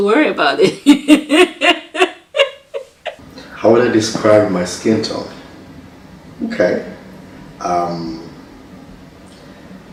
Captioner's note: laughter